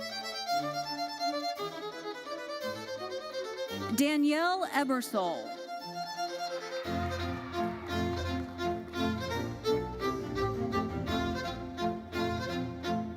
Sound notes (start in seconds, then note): 6.2 audience cheering; 8.8 lively uplifting music continues